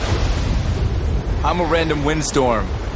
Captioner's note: thunder; violent winds